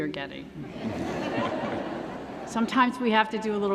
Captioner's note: laughter